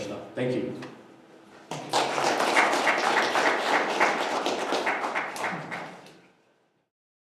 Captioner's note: audience appluase